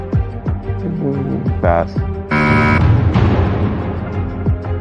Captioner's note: buzzer sounds